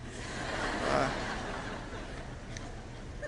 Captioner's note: laughter